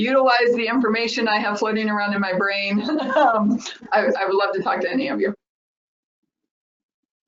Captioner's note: laughs